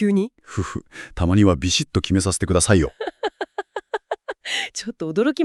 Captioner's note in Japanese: 笑い